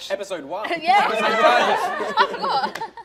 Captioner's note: laughter